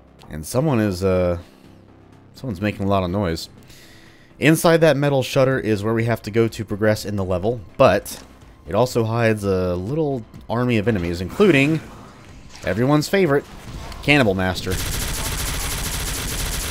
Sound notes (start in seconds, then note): 11.5 door opens, enemies alerted; 14.5 hail of gunfire